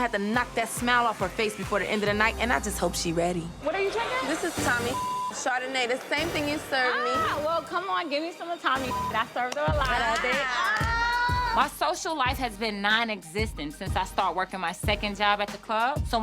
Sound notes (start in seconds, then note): 4.6 beep; 8.7 beep